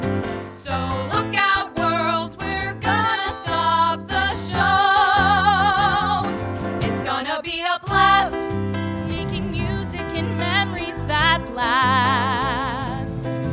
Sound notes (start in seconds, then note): 7.7 Jimmy starts snoring